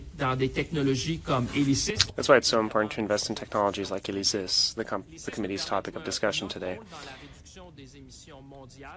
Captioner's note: speaking French